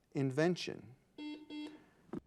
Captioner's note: buzzer buzzing